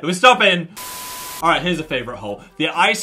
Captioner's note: TV static